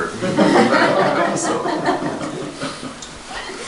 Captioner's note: audience laughter